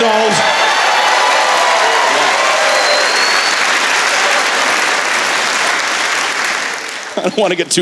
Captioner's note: cheering